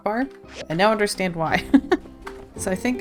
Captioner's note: laughs